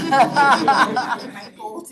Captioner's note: all laughing